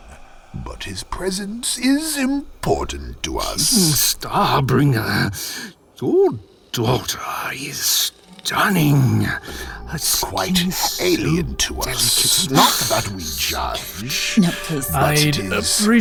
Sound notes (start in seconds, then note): 3.5 purring; 13.1 purring; 15.8 wincing